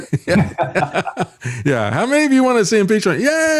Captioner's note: laughing